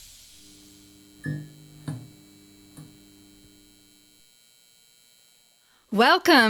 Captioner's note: electricity buzzing & light turning on sounds